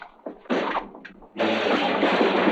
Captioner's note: door slam; crashing; swords clashing